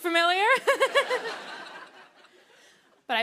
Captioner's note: laughter; nervous laugh